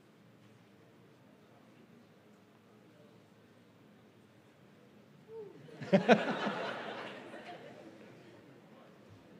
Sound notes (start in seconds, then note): 5.3 laughs